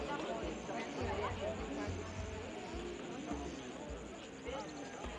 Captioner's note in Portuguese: falatório